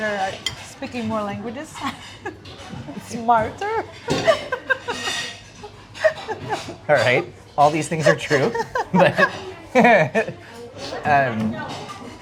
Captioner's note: laughing